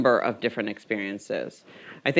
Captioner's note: none